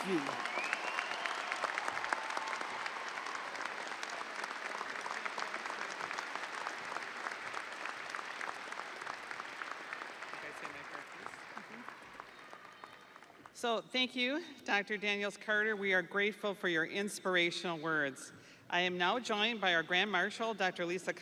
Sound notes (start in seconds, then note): 6.0 audience applauding; 6.0 audience cheering